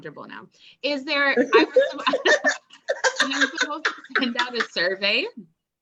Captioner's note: laughs